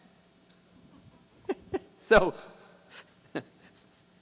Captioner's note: chuckles